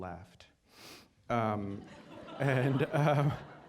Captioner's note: laughter